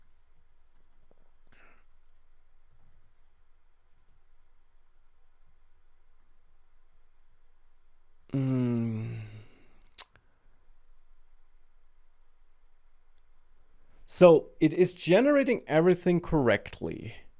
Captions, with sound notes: (sighs) Um... (clicks tongue) So, it is generating everything correctly,